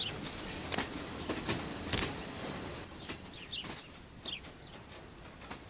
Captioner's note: train passing